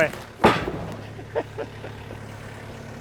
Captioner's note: wood crashing down; laughs